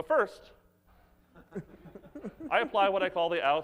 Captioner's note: audience laughs